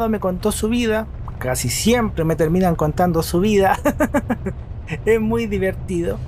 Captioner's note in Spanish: risas